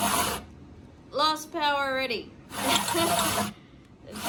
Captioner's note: scoffs